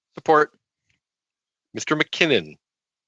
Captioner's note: speaking in French